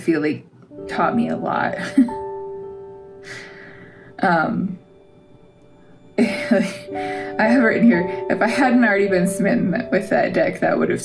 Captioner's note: laugh